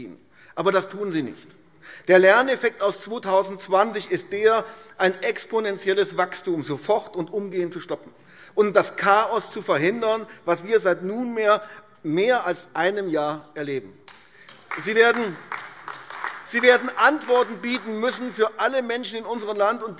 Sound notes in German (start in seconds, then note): 14.4 Beifall AfD